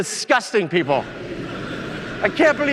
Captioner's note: audience laughing